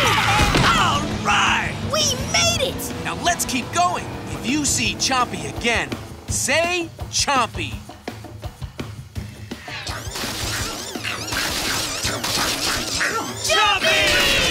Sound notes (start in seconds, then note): 9.7 mechanical noises